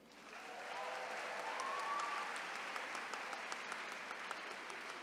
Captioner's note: attendees cheering